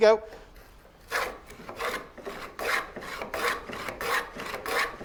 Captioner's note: plane grinding